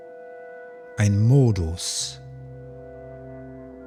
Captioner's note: german